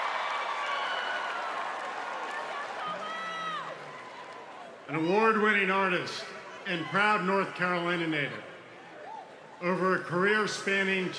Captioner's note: cheers and applause